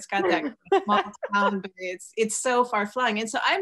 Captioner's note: laughs